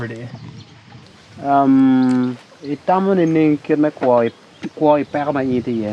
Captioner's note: speaking in foreign language